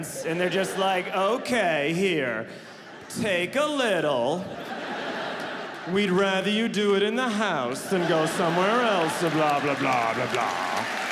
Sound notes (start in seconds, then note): 4.4 audience laughing